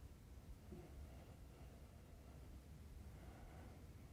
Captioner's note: breathes deeply